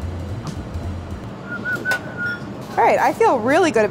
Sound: upbeat drumming; whistling

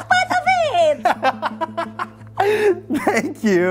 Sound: laughs

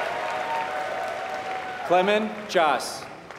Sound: applause

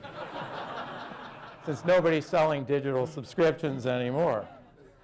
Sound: laughter

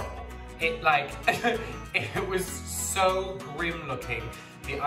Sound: laughs

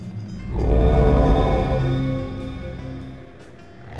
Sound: magical hum

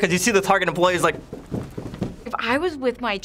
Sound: stomping on floor

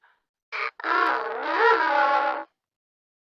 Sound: bit-crushed

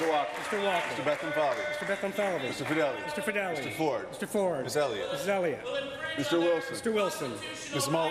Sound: applause

